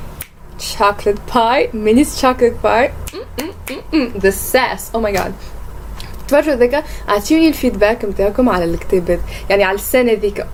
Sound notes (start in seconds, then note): 3.4 snaps fingers